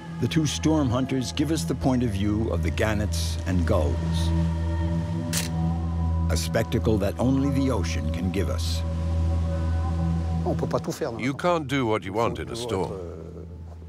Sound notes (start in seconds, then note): 5.3 camera snapping